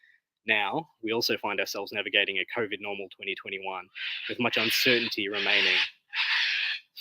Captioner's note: bird calls